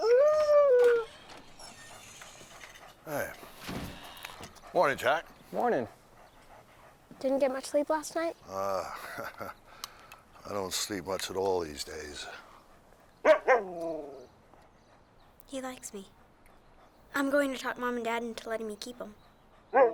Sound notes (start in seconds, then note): 0.0 Buck howling; 8.5 chuckling; 13.2 Buck barking